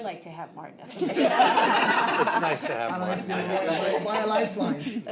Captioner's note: laughter